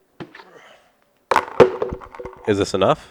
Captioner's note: struggle sounds